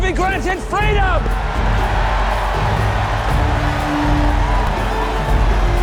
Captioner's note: crowd cheering